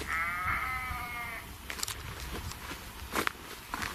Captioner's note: sheep bleating